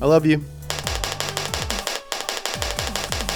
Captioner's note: clapping